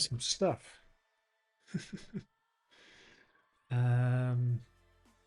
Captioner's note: chuckles